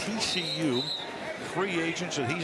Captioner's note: whistle blowing